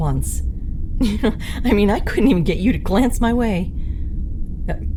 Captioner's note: chuckle